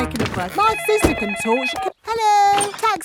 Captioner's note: cellphone ringing